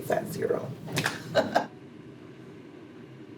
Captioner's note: chuckles